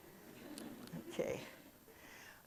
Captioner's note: audience chuckles